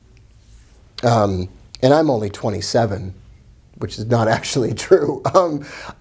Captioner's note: laughing